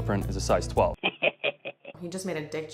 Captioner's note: devious laughter